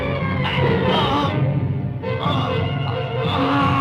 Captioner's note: gasping